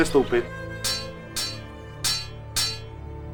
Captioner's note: sword clinking